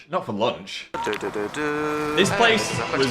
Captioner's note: Young Dan hums